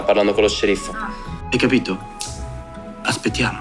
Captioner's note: snaps fingers